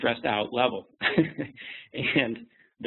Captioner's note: laughs